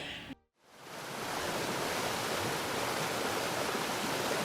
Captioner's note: waterfall splashes